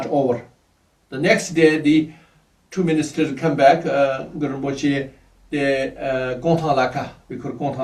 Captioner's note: tibetan